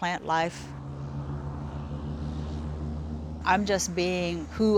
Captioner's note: motor humming